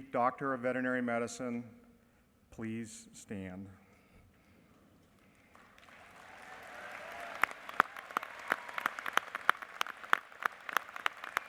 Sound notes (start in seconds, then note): 5.2 applause